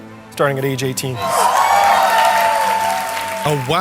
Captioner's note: excitement and applause